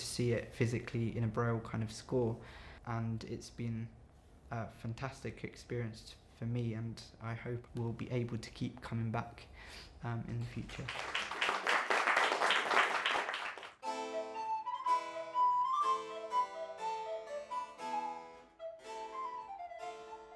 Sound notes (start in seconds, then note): 10.7 audience applause for Kevin's composition; 19.5 harpsichord